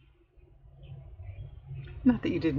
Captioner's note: laughs